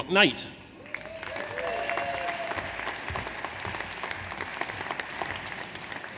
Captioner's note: audience applauds; audience cheers